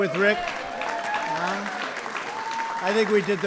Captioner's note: applause